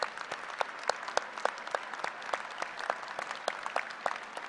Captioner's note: applause